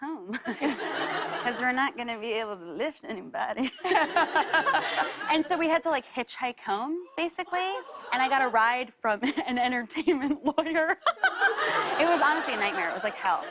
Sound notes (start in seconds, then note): 0.4 laughter; 3.6 laughter; 10.7 laughter